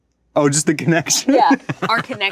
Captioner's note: laughs